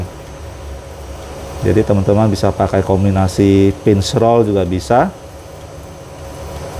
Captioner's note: printer machine noise